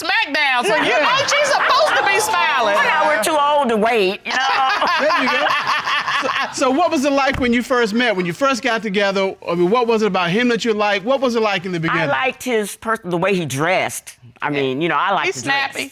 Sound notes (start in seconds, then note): 4.3 judge laughs